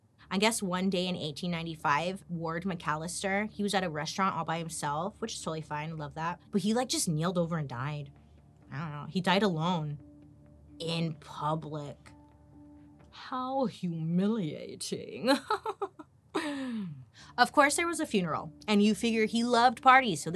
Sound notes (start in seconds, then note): 15.3 laughing